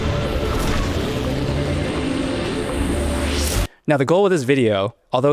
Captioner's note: upbeat music; engine revving